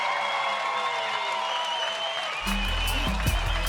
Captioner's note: cheering, applause